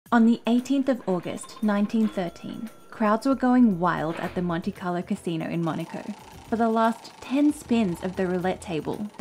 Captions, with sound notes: - On the 18th of August, 1913, (slot machine whirring) crowds were going wild at the Monte Carlo Casino in Monaco. (roulette whirring) For the last 10 spins of the roulette table,